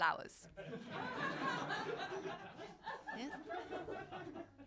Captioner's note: crowd laughing